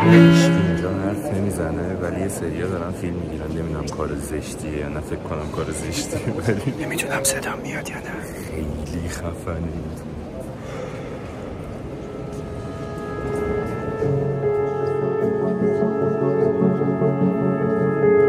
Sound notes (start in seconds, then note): 6.7 whispers